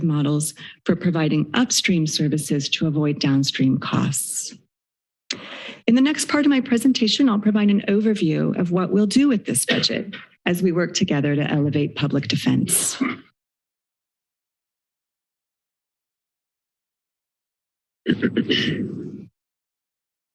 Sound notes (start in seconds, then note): 12.8 someone coughing; 13.8 silence; 19.9 silence